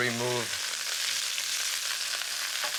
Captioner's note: pan sizzles